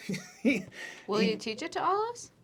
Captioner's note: laughter